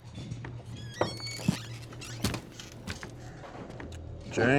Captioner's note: pouring drink; swinging doors squeak